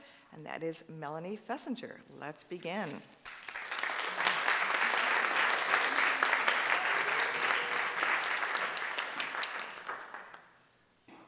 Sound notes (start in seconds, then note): 3.2 audience applauding